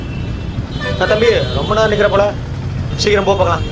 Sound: traffic noise

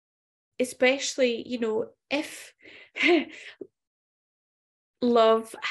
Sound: laughs softly

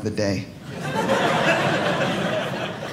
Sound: audience laughing

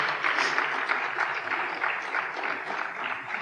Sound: applause

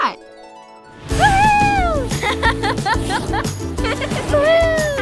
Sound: laughs

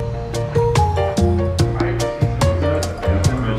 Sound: calm instrumental music; shoes squeak

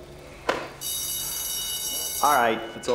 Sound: bell rings

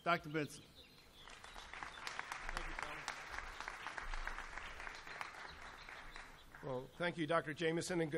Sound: applause

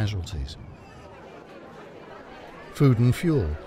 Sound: citizens murmuring

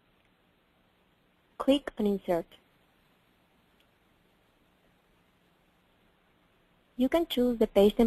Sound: pause

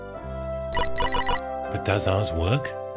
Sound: electronic beeping

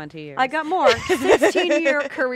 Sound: chuckles

